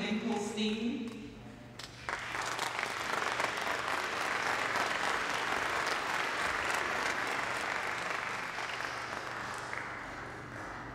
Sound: applause

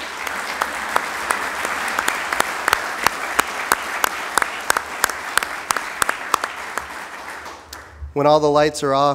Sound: applause

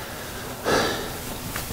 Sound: sigh

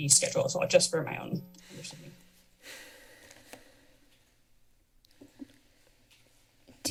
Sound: silence

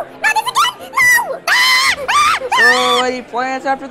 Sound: Horse Guy screams in the background

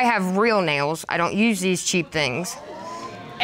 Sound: audience exclaims

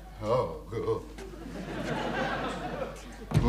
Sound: audience laughing

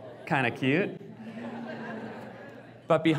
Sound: audience laughs

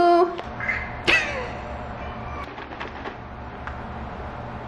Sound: Moo meows

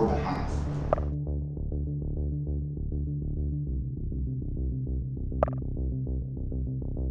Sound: suspenseful music; messages clicking

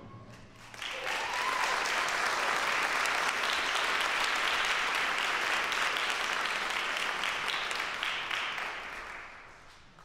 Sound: applause

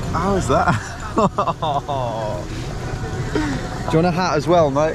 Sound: laughs

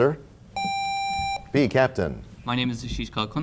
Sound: sound of a buzzer

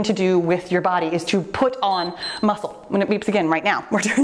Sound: timer beeps

